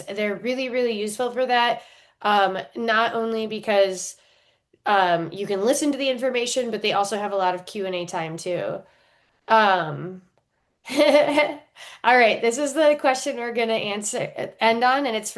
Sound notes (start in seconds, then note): 10.9 chuckles